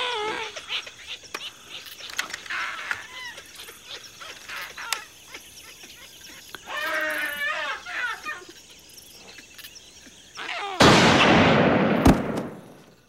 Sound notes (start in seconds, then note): 9.1 gunshot